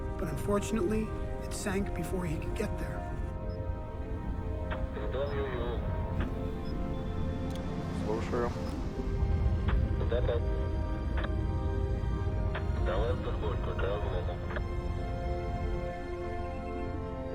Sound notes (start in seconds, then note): 5.1 man speaking in foreign language; 7.9 speaking in foreign language; 10.2 man speaking in foreign language